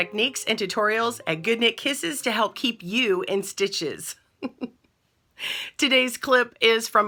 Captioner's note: laughs